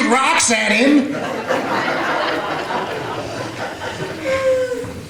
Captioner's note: audience laughter